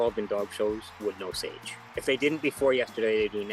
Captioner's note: cheers and Applause